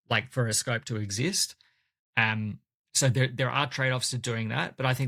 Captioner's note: none